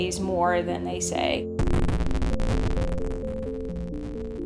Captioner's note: video game sounds